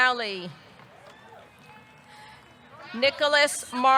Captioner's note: audience cheering